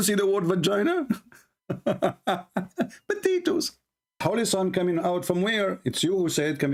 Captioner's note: Ketawa